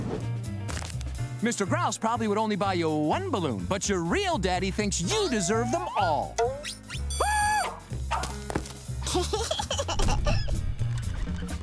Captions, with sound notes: Mr. Grouse probably would only buy you one balloon, but your real daddy thinks you deserve them all. [squealing] [giggling]